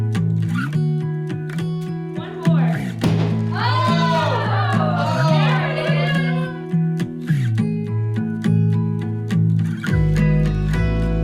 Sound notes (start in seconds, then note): 3.1 people shouting; 3.4 hammer bangs; 8.4 gentle music